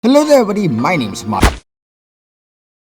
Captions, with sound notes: Hello everybody my names (smash)